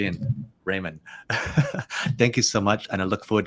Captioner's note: chuckles